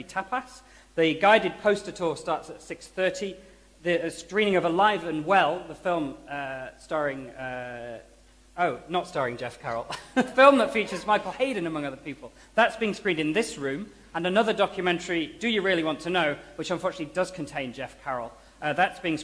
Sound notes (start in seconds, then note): 9.9 laughter